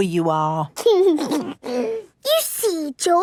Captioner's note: giggles